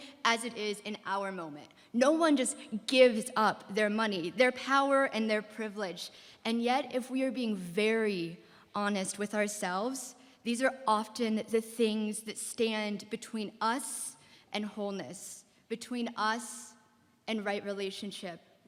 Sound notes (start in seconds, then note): none